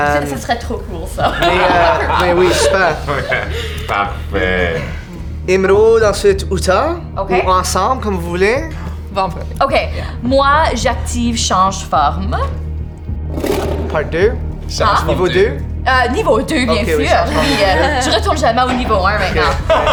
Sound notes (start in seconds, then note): 1.2 laughs; 13.4 monstrous roar; 19.3 laughs